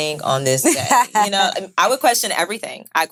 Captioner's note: laughing